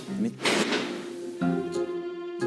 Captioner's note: banging